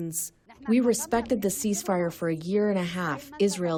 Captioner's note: through translator